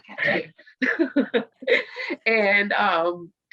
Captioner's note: laughs